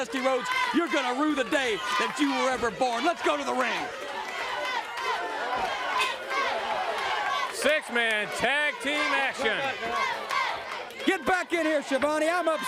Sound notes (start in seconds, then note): 2.4 crowd cheering; 9.7 crowd cheering